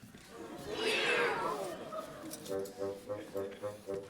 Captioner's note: meow noise